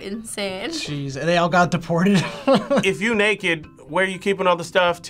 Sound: laughs

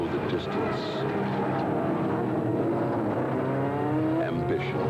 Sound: engines

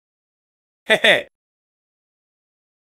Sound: chuckles

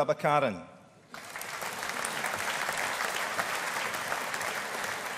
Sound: audience applauding

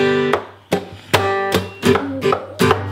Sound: tapping; hands clapping; upbeat guitar music

